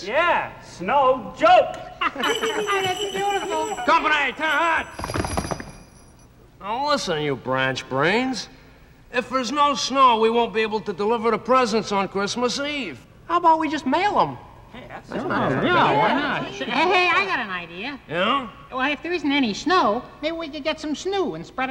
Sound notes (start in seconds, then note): 2.0 laughs; 2.2 bells jingle; 4.4 hooves stomp